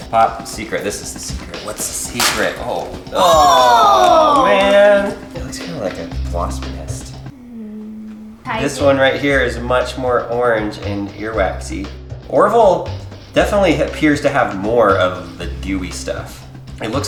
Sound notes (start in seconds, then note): 2.2 both exclaim; 6.9 groans